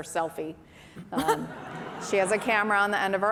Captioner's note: laughter